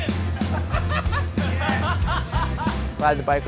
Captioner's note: laughter